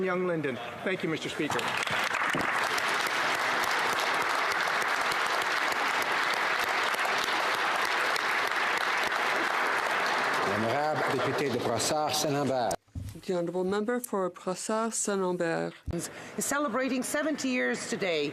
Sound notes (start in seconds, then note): 5.9 applause